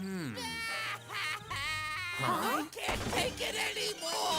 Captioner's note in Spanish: meowth gritando